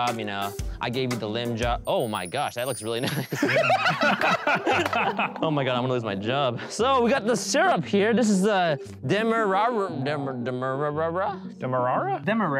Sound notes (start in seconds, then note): 3.0 group laughing; 9.5 stuttering